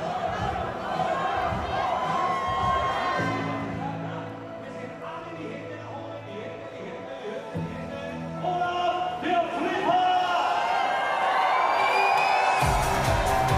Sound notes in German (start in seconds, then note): 3.0 Gedämpfte Stimme des Ansagers; 10.6 Tosender Applaus, Jubel, Pfiffe